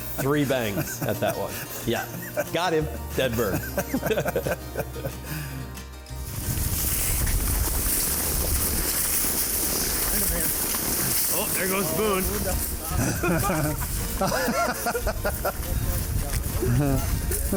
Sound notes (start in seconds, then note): 3.3 laughing; 12.9 group laughing